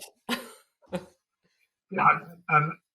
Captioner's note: chuckling